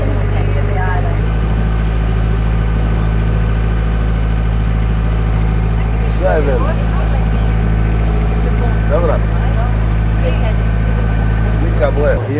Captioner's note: engine Noise